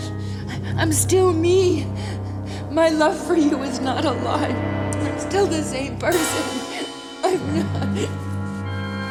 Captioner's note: sobs